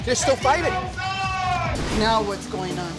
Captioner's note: shouts